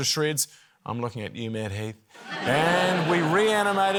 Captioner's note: laughter